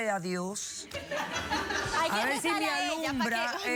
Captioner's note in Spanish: risas